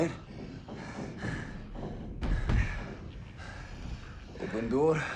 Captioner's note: Strigoi thumping; Teplov gasping